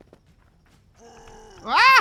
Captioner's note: angry trork noises